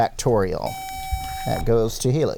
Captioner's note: buzzer